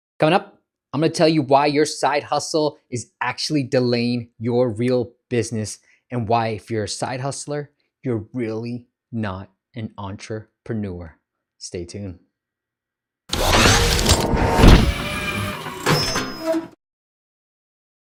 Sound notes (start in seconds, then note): 13.3 machinery clinking